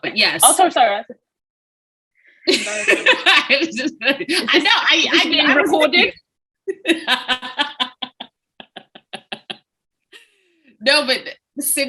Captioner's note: laughs